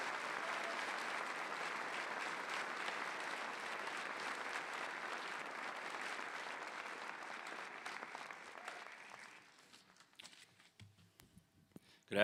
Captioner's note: applause